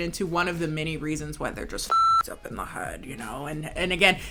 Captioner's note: beep